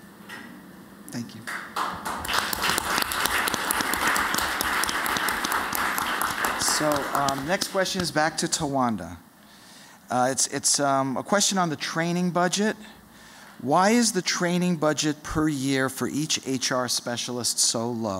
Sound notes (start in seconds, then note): 5.0 applause